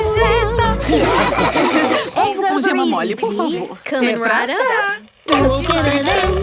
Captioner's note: laughing